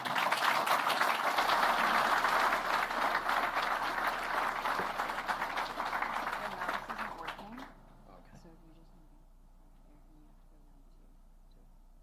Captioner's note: applause